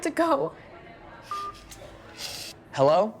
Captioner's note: tone beeps; Tracy sniffles